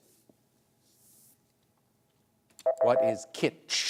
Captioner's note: beep